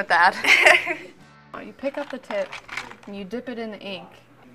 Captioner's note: laugh